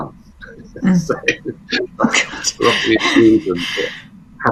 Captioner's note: laughs